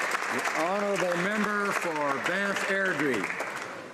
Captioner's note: applause